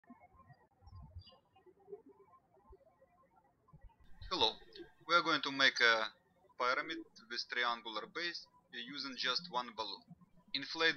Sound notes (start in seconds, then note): 0.6 birds chirping